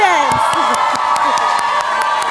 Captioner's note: cheering